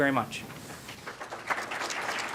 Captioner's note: clapping